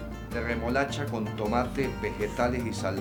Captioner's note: speaking in Spanish